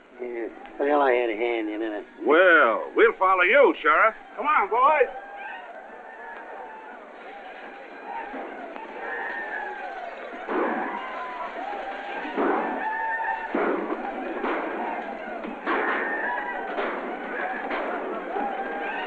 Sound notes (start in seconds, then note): 10.3 yelling and gunshots